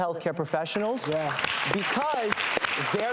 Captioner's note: applause